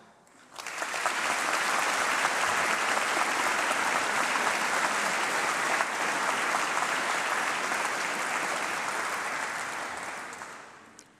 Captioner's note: applause